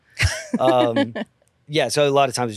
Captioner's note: laughs